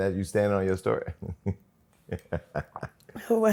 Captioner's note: laughs